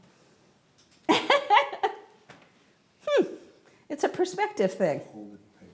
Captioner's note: laughs